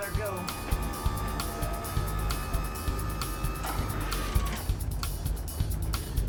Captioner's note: lift motor hums